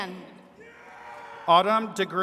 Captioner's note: attendees cheering